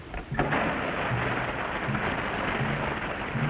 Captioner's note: wheel squeaks; water spurts